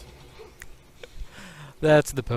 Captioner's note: chuckles